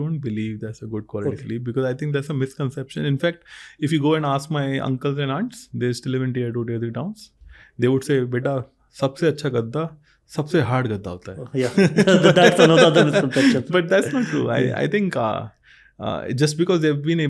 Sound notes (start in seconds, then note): 14.4 speaks in Hindi; 14.7 chuckles